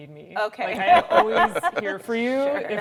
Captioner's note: laughing